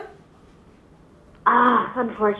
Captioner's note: sighs